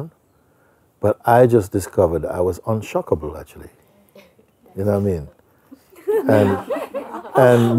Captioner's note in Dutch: gelach